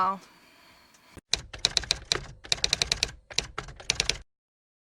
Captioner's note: typewriter Typing